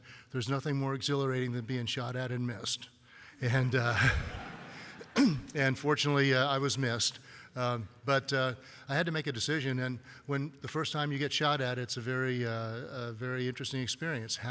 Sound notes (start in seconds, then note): 3.9 laughter